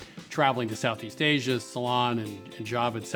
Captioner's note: none